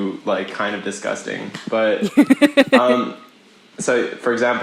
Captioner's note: laughs